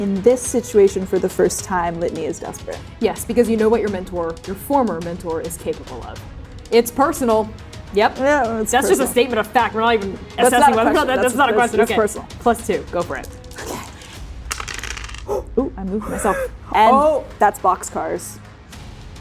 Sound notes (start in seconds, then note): 14.4 dice rolling; 14.4 shaking dice; 16.0 gasping; 16.0 laughing